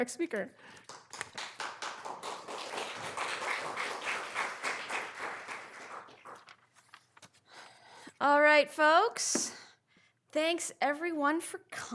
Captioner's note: applause